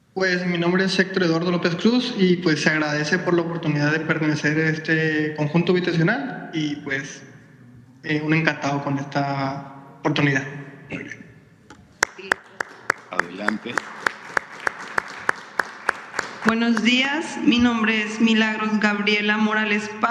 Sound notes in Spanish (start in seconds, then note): 12.0 aplausos